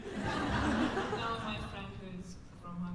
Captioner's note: laughter